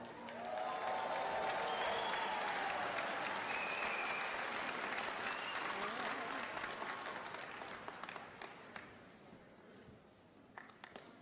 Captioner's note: cheers and applause